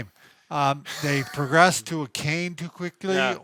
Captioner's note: gasping